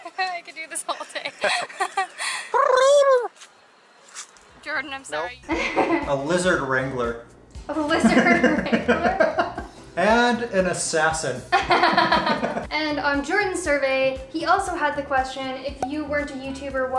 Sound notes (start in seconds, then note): 0.8 laughs; 7.9 laughter; 11.8 laughs